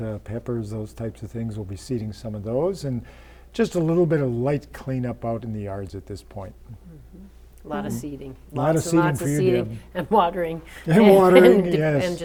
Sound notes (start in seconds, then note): 9.9 laughter